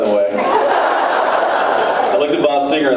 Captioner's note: laughs